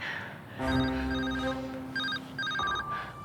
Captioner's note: phone rings